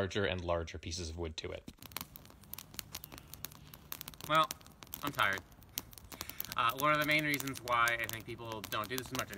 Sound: fire crackling

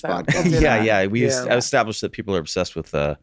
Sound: Glenn chuckling

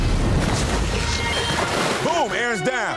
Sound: water splashing; urgent music; digital beeping

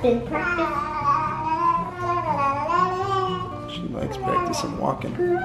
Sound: baby mumbles sounds

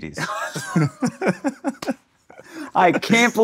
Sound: laughing

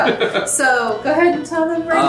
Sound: laughs

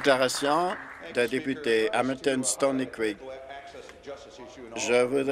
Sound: some Applause

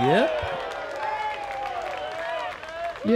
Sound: applause

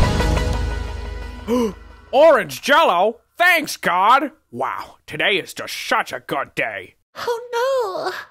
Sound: gasp

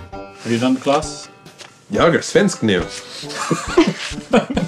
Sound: speaking Swedish

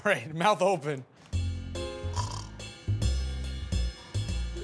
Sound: snoring

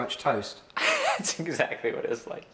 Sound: laughter

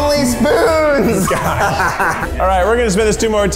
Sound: laughs

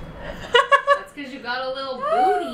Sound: laughs

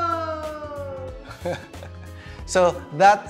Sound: giggles

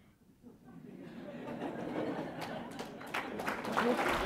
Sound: applause

